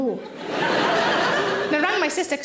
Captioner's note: audience laughing